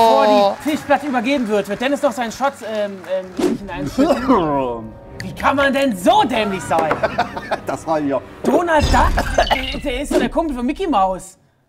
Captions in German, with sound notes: Bevor die Tischplatte übergeben wird, wird Dennis seinen Shot ... in sich hineinschütten. (Husten) Wie kann man denn so dämlich sein? Donald Duck? Der ist doch der Kumpel von Micky Maus.